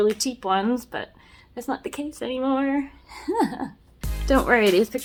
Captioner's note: laughs